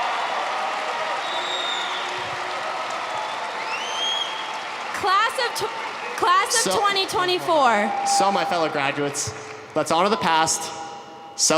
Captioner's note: applause